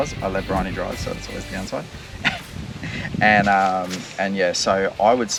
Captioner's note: chuckles